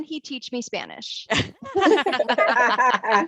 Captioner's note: laughter